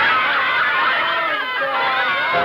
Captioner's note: laughs; upbeat music